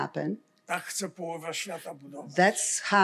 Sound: foreign language

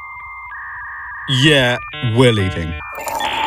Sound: dial up modem sounds

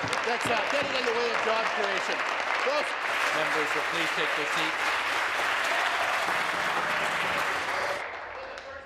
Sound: applause

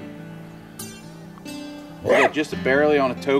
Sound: coyote barks

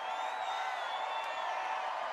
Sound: cheers and applause

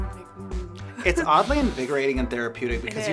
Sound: laughs

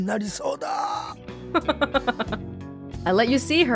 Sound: chuckles

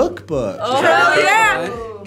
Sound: group oohs

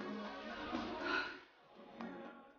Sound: sigh

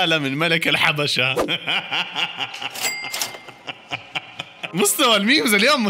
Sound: laughter

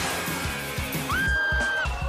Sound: screams in Up

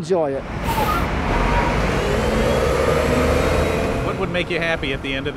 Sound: bus pulling away

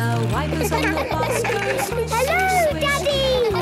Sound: laughter; snorting

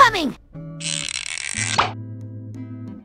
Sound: pop!

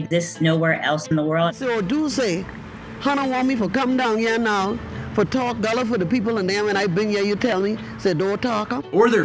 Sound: woman speaking in</i> <i>Gullah Geechee dialect

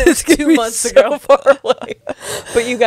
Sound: panel laughing

